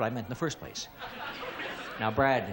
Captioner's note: laughter